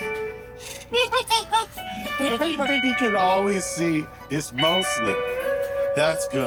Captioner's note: laughs maniacally